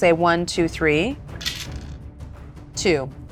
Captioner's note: die rattles